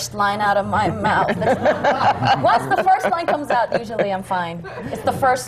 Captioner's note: laughter